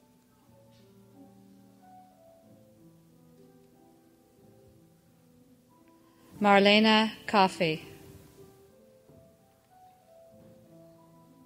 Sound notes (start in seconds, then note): none